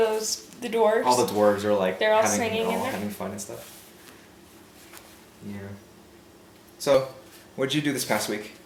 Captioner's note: talking in background; talking in background